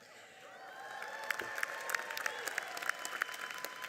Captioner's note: cheering; applauding